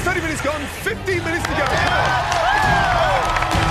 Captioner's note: cheering